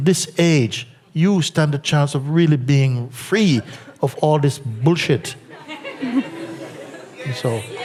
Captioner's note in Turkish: gülüşler